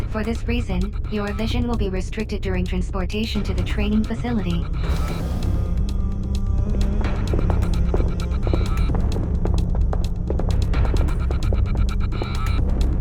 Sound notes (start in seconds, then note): 6.7 footsteps